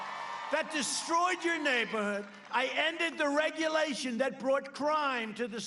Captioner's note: cheers and Applause